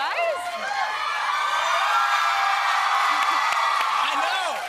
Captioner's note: cheers and applause